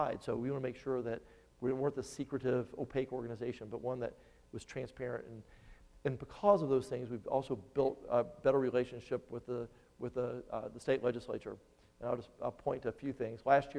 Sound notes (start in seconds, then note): none